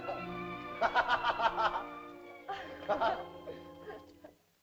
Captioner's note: soft music; Tumak laughs; Loana chuckles